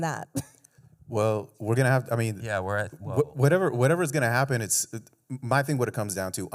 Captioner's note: chuckles